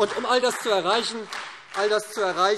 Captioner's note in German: Beifall SPD